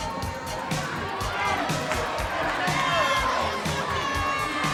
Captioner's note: crowd cheers